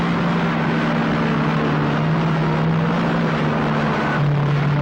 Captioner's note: truck whizzes